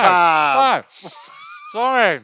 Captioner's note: laughing